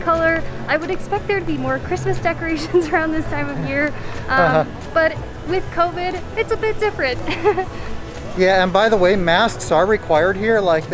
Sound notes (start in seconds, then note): 7.2 laughs